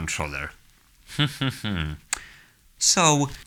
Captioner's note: quiet laughter